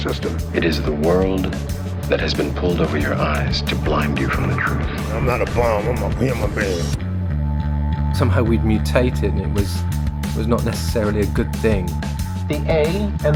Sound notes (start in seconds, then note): 3.2 soundbite of archived recording; 11.7 soundbite of montage